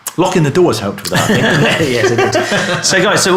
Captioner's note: laughs